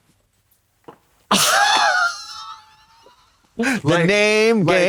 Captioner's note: Katya chortles